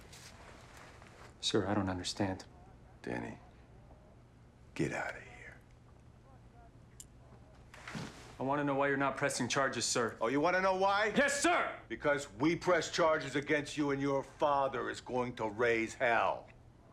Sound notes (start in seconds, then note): none